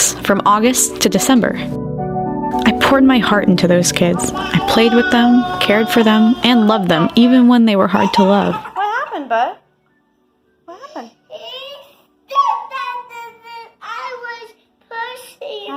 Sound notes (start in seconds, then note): 8.4 crying